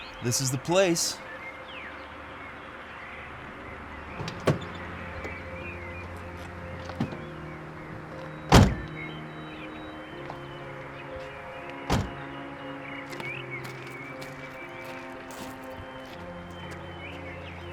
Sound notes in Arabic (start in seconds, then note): 2.1 زقزقة الطيور; 4.4 موسيقى متأملة